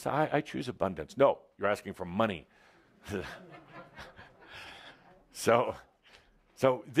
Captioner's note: some laughter